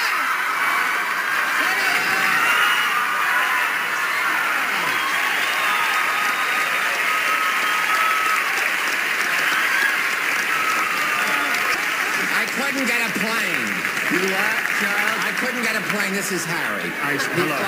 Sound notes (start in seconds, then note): 1.7 applause; 1.7 laughter and loud cheering